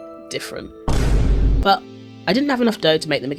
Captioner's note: Vine Boom